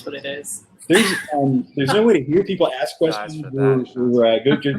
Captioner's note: laughter